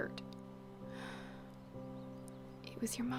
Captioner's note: sigh